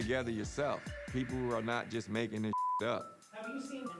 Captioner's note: beep